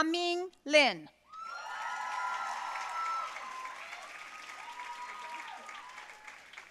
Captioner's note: audience cheering and applauding